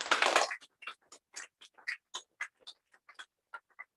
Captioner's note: applause